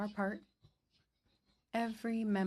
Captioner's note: speaking French